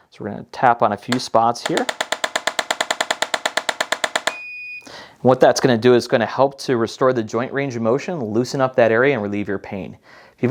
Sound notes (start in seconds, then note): 1.6 instrument tapping; 4.4 instrument beeps